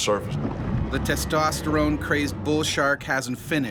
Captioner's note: voiceover